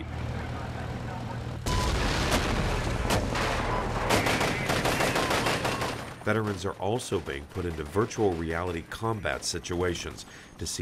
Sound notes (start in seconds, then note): 1.6 bombs booming; 1.6 guns banging